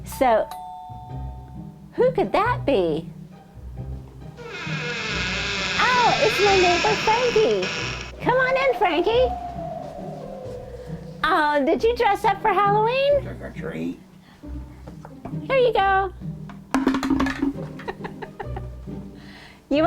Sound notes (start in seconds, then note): 0.6 doorbell; 4.4 door squeak; 10.0 wind howling; 16.7 clunk noise